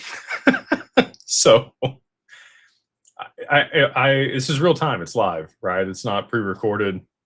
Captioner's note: laughter